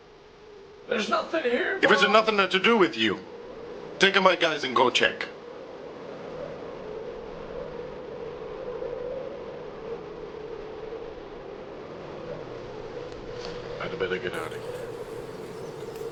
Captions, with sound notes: - There's nothing here, boss! - If it's nothing to do with you, take my guys and go check. (Wind howling) I better get out of here.